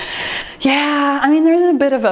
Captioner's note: sighs